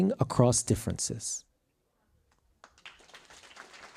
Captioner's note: applause